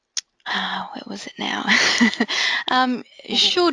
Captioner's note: laughing